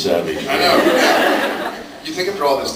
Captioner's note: laughs